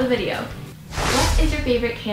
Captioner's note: rush of air